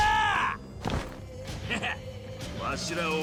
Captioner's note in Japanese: 叫び声